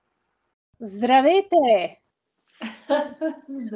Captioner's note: foreign Language Spoken